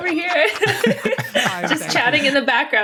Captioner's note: laughter